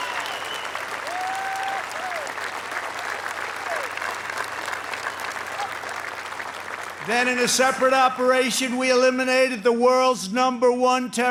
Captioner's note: applause